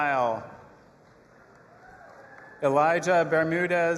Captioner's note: audience applauding and cheering